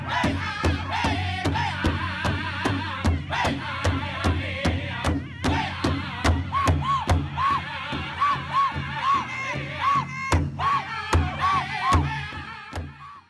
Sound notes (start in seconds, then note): 0.0 drums beating; 0.0 people chanting; 3.6 drums beating; 3.6 people chanting